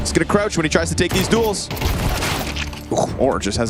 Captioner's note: gun firing